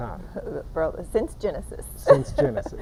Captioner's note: chuckling